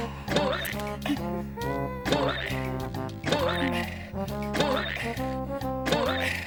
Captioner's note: humming; hammer banging